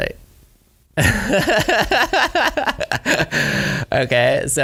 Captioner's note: laughs